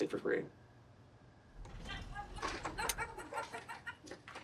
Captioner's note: laughter